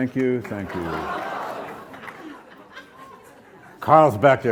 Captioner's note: audience hollers